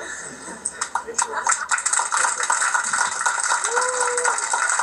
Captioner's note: clapping